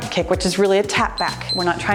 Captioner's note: timer beeps